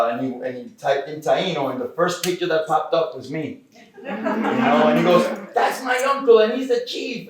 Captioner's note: laughter